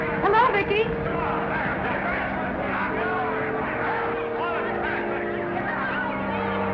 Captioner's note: somber music; reporters chattering